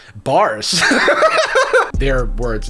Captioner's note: chuckling